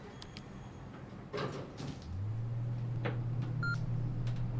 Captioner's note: elevator beeping